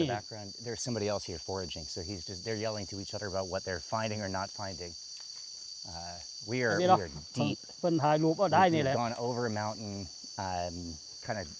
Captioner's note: speaking Thai